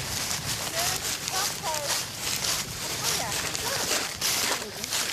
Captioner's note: indistinct chatter